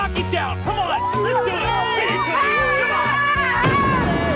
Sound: Laurie thudding; Laurie screaming

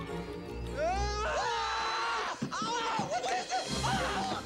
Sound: screaming

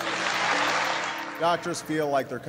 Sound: audience applauding

